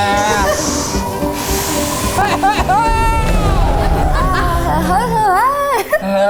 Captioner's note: all breathing heavily; yelling; all mumbling